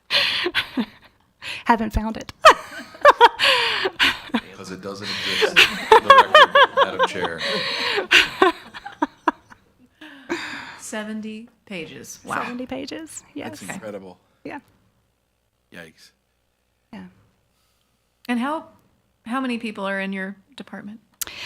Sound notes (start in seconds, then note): 5.0 laughs